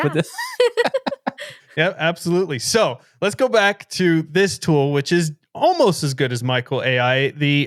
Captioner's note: laughing